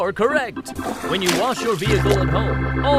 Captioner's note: water splashes